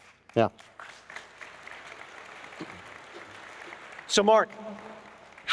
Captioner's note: applause